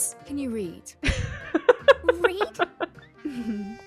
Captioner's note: laughs